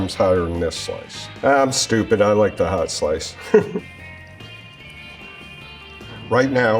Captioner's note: chuckles